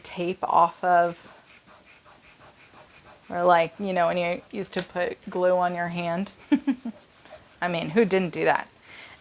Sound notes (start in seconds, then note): 0.8 fingers rubbing; 6.4 chuckling